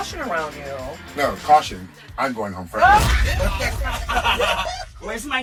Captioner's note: cackling